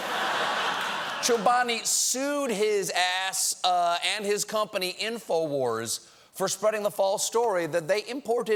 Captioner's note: laughter